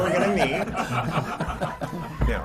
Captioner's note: laughter